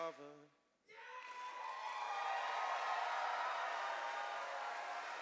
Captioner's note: cheers and applause